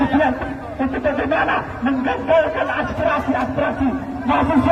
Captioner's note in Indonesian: tertawa